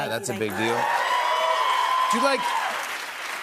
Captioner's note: cheers and applause